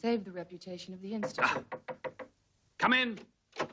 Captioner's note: knocking